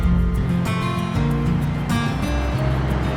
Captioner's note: engine humming; bright music continues